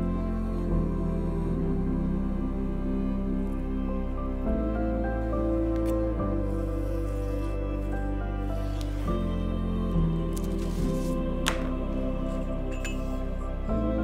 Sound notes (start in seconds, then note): 0.1 gentle music continues; 6.7 paper scratching; 10.3 paper rustling